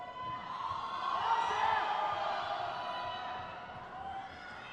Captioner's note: crowd cheers